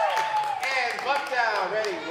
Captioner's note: girls cheering